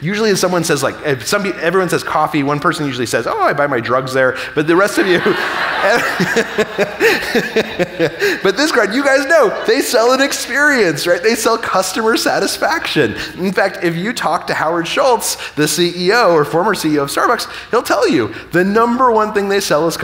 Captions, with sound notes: usually if someone says, everyone says coffee, one person usually says oh, I buy my drugs there but the rest of you (audience laughing) (laughing) but this crowd, you guys know, they sell an experience, right, they sell customer satisfaction. In fact, if you talk to Howard Schultz, the CEO or former CEO of Starbucks, he'll tell you, the number one thing they sell